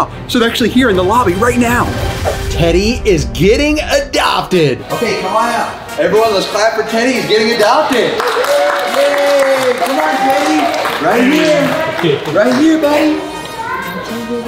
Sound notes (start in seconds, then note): 3.7 triumphant music plays; 7.8 group applauds and cheers